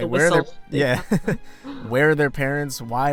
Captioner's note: laughter